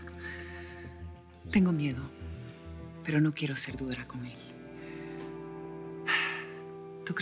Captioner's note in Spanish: exhala